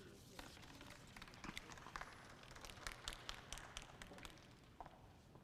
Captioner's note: audience applauds